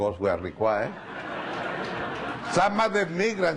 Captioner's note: laughing